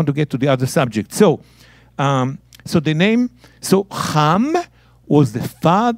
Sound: speaking in Hebrew

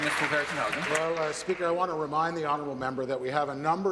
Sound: applause

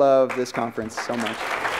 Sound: cheers and applause

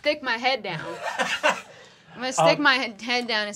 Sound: chuckles

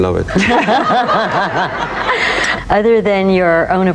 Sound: laughing

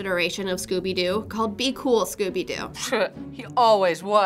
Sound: scoffs

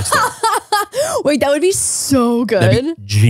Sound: laughs

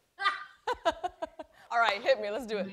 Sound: laughter

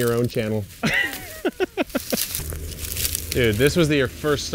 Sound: laughs

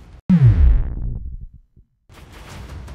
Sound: electronic sound effect; intense music

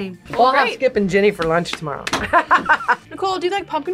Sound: laughs

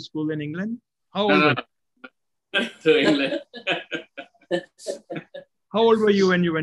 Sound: laugh

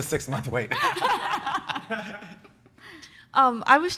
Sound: everyone laughing

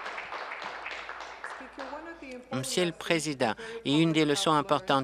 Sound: applause

